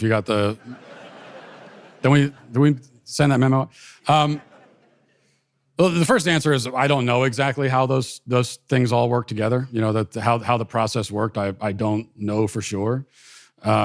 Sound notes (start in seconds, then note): 0.5 audience laughter